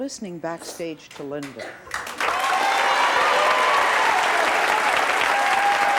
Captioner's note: clapping; cheering